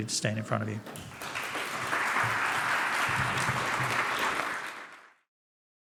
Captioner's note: applause